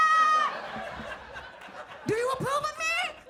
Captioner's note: audience laughs